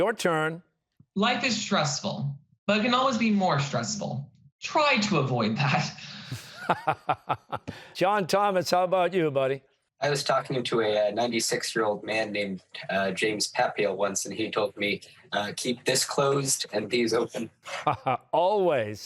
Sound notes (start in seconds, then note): 6.3 chuckling; 6.3 laughs